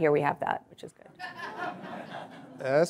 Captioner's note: audience laughing